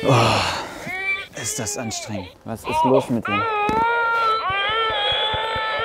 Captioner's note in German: Baby schreit und er stöhnt; Baby schreit